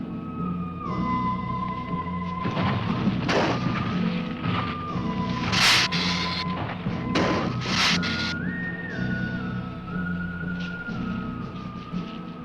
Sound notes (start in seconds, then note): 0.5 dramatic music; 3.5 ground rumbling; 3.5 lizard hissing